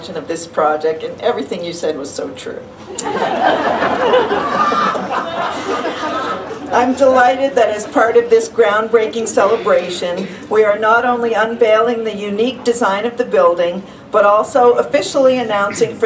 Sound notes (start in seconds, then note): 2.9 laughter